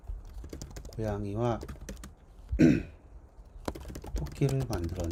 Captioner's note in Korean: 목을 가다듬음